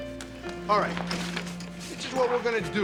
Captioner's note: none